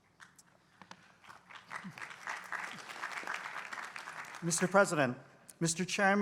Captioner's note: applause